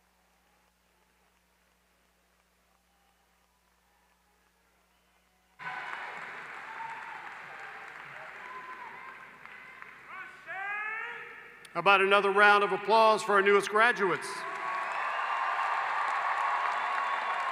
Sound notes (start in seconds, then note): 9.7 applause